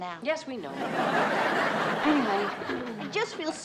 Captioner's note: audience laughs